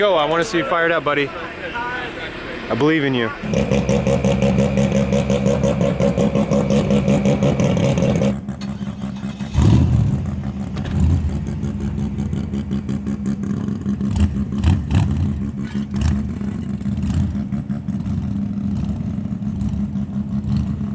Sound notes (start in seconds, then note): 4.0 engine rumbling; 9.8 engines revving